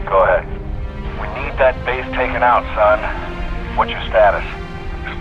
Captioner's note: radio